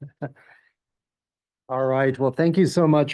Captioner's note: laugh